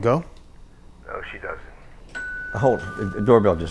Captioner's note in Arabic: رنين جرس الباب